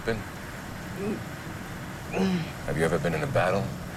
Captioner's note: Jeremy stammers